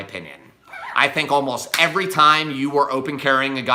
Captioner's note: hands clap